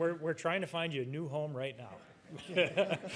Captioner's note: laughs